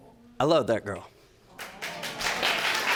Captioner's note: audience applauding